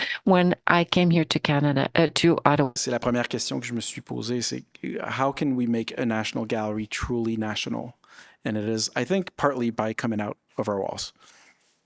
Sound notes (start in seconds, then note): 3.0 speaking in French